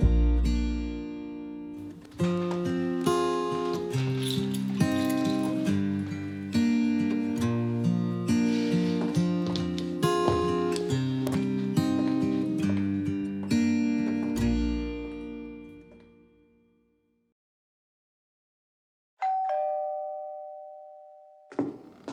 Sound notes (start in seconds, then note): 0.2 melancholy music; 4.3 keys jingling; 7.8 melancholy music continues; 9.3 footsteps clacking; 19.2 doorbell chiming